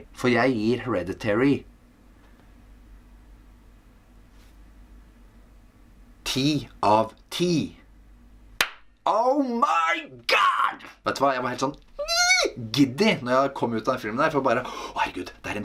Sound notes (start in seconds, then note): 8.6 clap